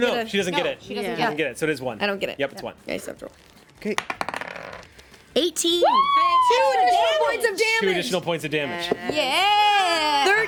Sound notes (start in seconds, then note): 3.9 rolls dice; 5.8 women cheer